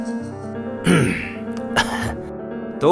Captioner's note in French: Tousse